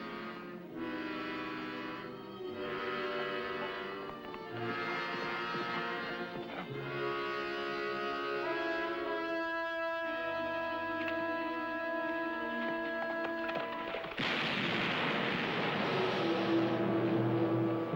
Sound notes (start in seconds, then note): 14.1 gunshot